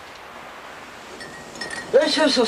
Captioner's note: jingling